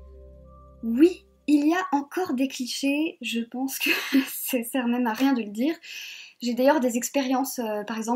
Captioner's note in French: rires